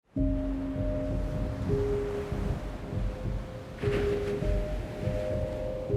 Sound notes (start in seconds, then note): 0.0 calm music; 0.4 waves lapping